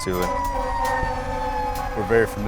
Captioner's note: siren, honking